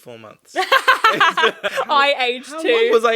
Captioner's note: laughing